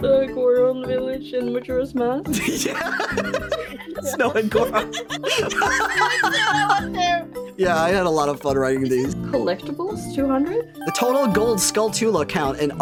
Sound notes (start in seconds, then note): 2.3 laughing; 5.4 cackling